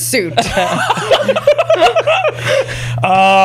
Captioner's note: laughter